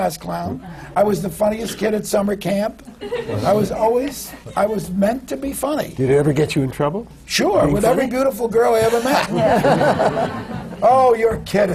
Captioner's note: laughter